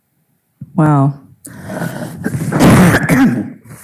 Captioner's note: coughing